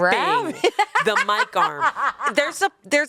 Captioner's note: laughs